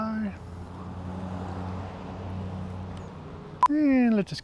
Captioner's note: cars running